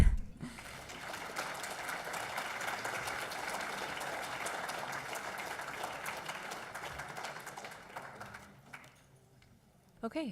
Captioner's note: applause